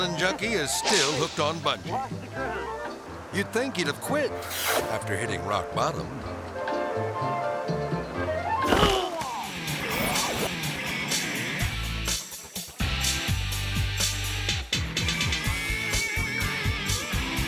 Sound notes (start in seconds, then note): 0.0 air swoosh; 0.0 giggling; 6.6 lively music; 8.5 groaning; 10.4 energetic rock music